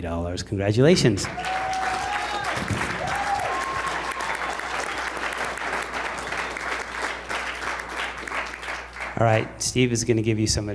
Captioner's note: applause